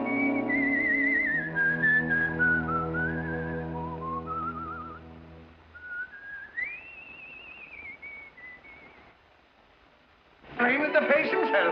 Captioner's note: whistling